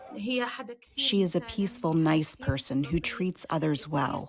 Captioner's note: through translator